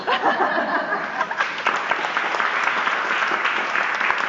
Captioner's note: applause